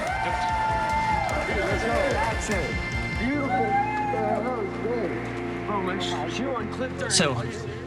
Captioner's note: cheers from the crowd